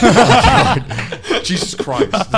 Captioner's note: laughing